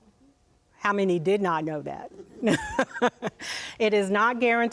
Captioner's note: laughs